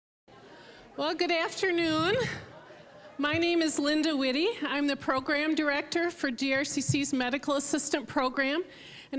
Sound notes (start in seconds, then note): 0.3 general chatter